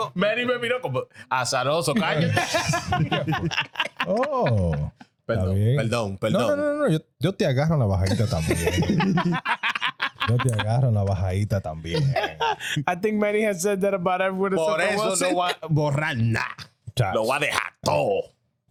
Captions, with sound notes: (Speaking In Foreign Language) I think Manny has said that about everyone. (Speaking In Foreign Language)